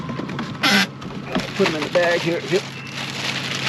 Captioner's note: fish thrashing; lid creaking